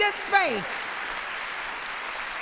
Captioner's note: applause